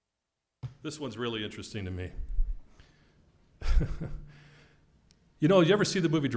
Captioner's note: laugh